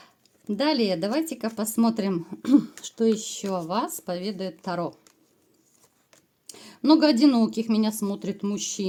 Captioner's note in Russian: откашливается